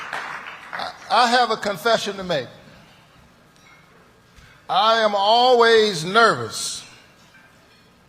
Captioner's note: applause